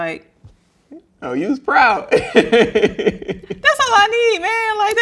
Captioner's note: laughing